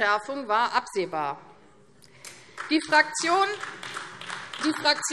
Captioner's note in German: Beifall AfD